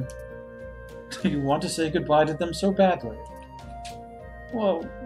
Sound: laughing

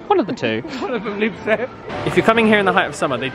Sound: laughs

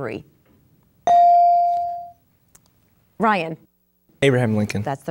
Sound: dinging

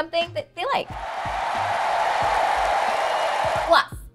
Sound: audience applauds

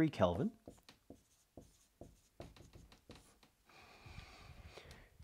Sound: marker tapping board

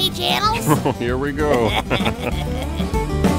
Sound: laughing

